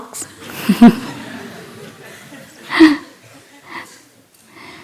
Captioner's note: laughter